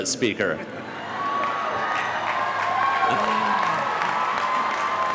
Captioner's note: audience cheering